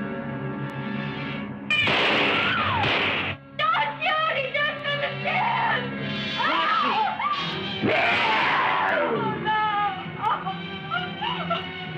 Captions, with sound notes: [Gunshots] don't shoot he doesn't understand No No, [Eegah grawls] no no oh